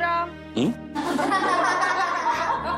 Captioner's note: laughing